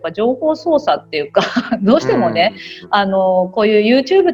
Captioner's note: laugh